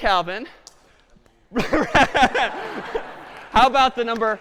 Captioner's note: laughter